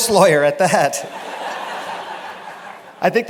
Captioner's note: laughter